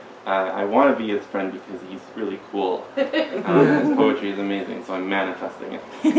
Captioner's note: giggles